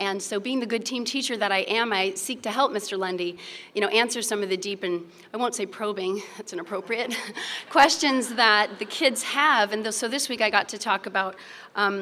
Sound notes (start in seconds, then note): 7.0 laughter